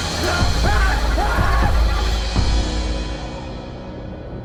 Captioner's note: screaming